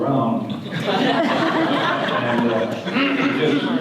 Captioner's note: audience laughter